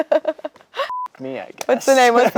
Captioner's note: laugh; beep